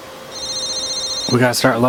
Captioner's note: phone ringing